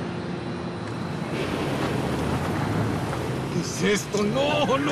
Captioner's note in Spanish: ruido del motor